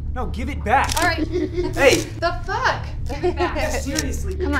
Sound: dad laughing

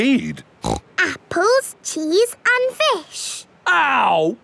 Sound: snorts

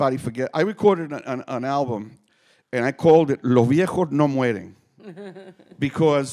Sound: speaking Spanish

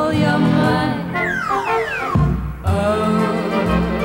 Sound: slide whistle tooting

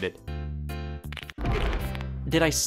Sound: snapping

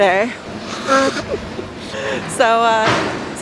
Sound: blowing nose

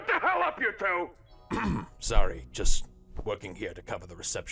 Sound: engraged; clears throat

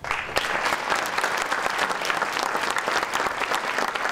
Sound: audience applauding

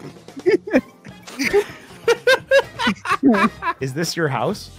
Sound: laughter

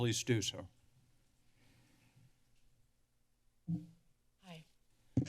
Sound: silence

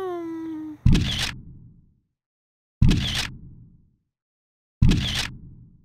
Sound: camera clicking

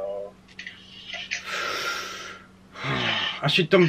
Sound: breathes in sharply; sighs

